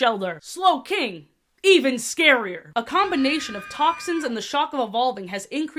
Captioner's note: distant scream sfx